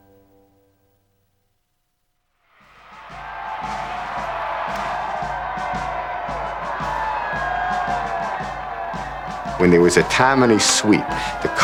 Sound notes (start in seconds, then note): 3.0 crowd Cheering; 5.9 marching Band